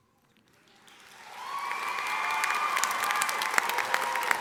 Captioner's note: audience applauding